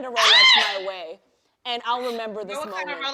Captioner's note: laughs